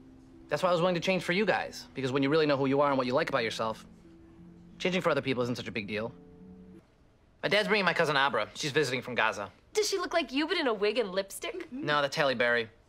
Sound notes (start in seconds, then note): none